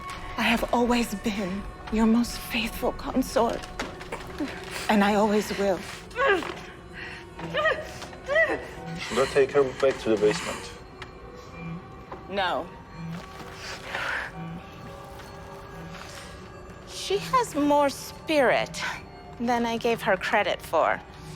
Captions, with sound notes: I have always been your most faithful consort and I always will. (Caroline whimpering) - Should I take her back to the basement? - No. She has more spirit than I gave her credit for.